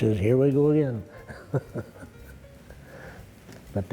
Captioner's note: chuckles